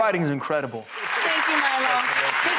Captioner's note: audience applauding